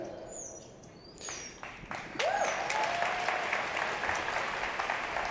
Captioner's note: applause